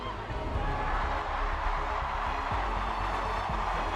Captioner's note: crowd cheering